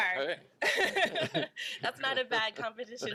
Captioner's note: laughs